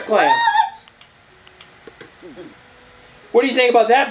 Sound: button noises

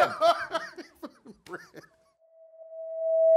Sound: laugh

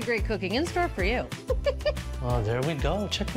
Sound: host laughs

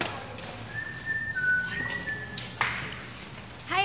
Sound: whistling

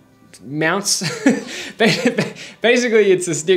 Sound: laughing

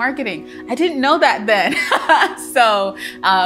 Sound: laughs joyfully

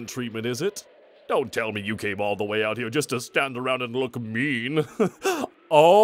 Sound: chuckles

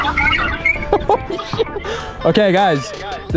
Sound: laughs

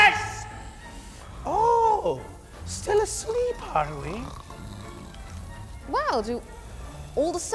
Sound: man snoring

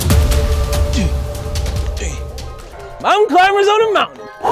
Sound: grunting

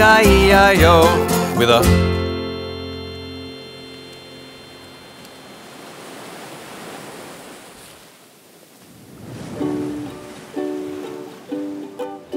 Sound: beach noises

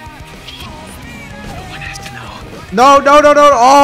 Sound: whispering; music cuts off

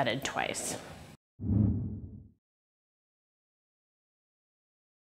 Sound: graphic whooshing

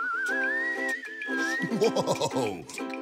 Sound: upbeat chiming; xylophone music; whistling

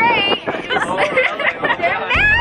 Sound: laughing

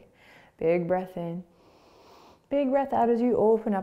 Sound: inhaling

